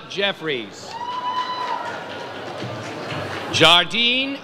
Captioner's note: audience cheers